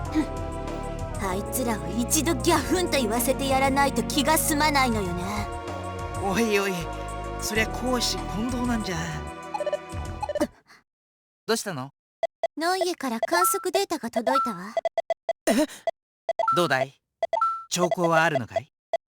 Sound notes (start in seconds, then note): 10.6 gasp